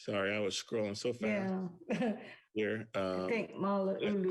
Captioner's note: laughs